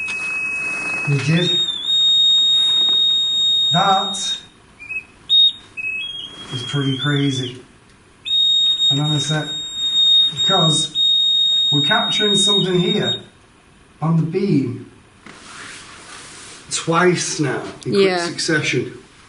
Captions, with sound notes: We did... (high-pitched beep) That was pretty crazy. And then said, cause we're capturing something here on the beam. Twice now in quick succession.